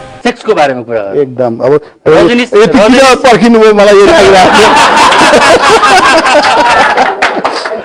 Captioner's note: laughter